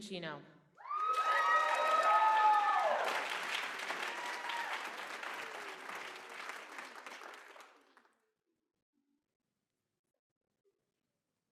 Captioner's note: applause